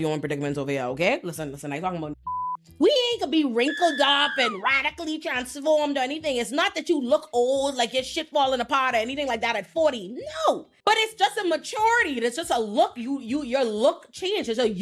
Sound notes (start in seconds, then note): 2.2 beep